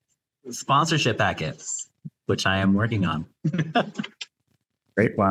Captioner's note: laughs